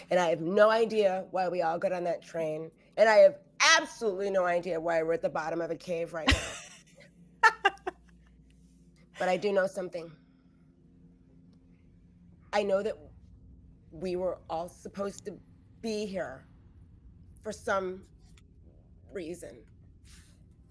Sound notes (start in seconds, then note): 7.4 laughs